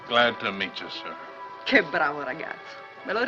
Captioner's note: speaking in italian